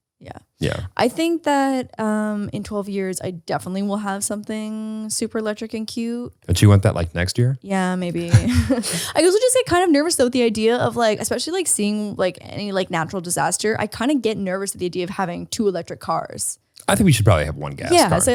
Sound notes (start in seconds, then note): 8.2 laughs